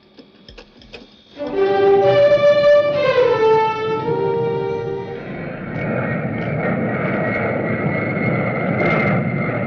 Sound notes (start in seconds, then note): 1.4 upbeat music; 5.9 plane whirring